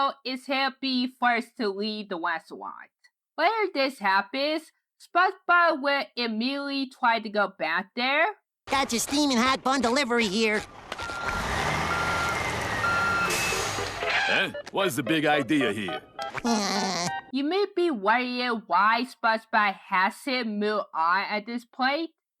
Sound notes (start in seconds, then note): 10.7 truck backing up; 13.3 brake sound; 16.4 nervously laughs